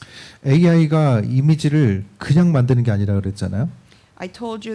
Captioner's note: speaking korean